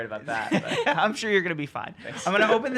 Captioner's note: giggles